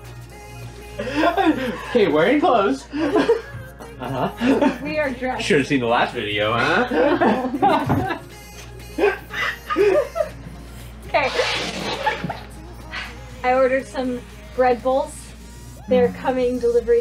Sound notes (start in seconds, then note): 2.9 laughing; 7.2 both laugh; 11.5 sighs